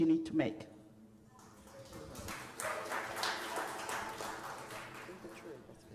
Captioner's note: applause